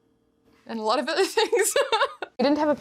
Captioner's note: laughs